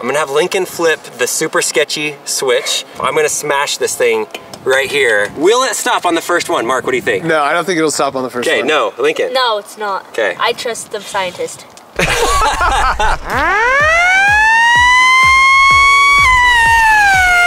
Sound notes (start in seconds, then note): 11.9 group laughs; 13.0 siren